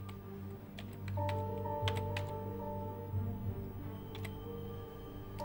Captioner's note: keyboard keys clacking